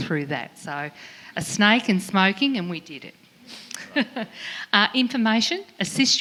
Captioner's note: laughs